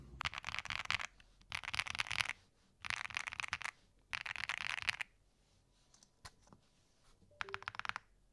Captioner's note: typing